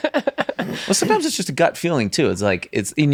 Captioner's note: group laughs